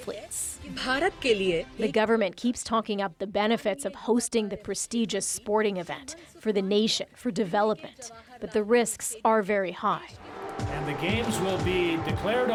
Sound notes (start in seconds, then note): 2.4 speaking alternate language